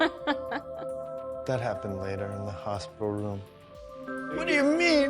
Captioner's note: laughs